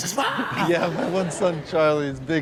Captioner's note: audience laughs